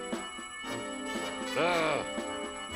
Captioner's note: grunts